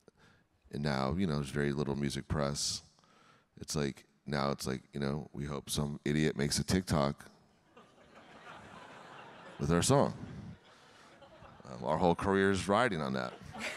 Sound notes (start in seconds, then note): 7.8 audience laughing